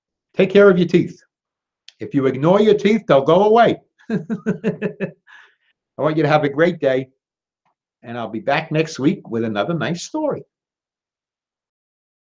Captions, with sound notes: Take care of your teeth. If you ignore your teeth, they'll go away. (laughing) I want you to have a great day, and I'll be back next week with another nice story.